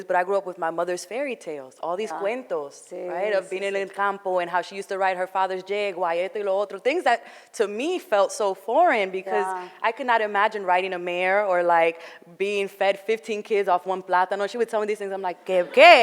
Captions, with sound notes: but I grew up with my mother's fairy tales. All these cuentos. (foreign language) and how she used to ride her father's Jaguar, (foreign language). Things that, to me, felt so foreign because I could not imagine riding a mare. Or being fed, 15 kids off one platano. She would tell me these things,